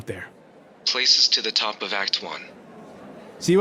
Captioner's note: intercom